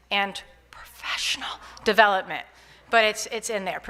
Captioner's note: whispers